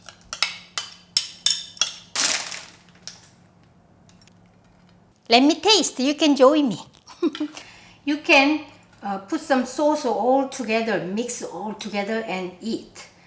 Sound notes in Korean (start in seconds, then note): 7.1 웃음